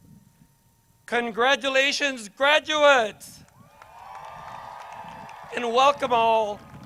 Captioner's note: crowd cheers